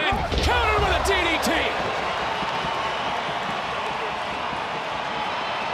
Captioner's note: cheering